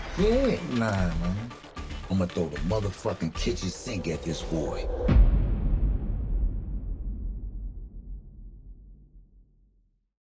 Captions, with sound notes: Yeah. - You lying man. - I'ma throw the motherfuckin' kitchen sink at this boy! (deep tone)